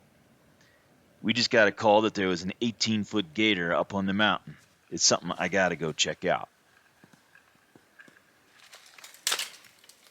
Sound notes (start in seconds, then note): 6.7 branches breaking, snow crunching